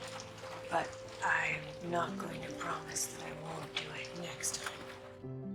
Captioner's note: voiceover